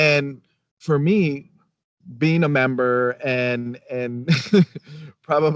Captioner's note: chuckles